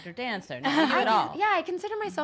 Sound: Krystal laughs

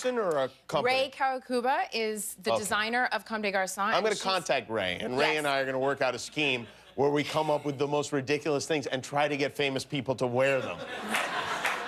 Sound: cheers and applause

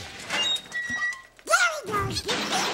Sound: background hinges creaking

